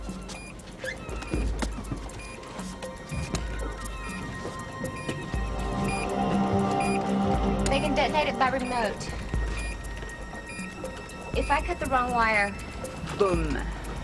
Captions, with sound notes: - It is? (beeping continues) They can detonate it by remote.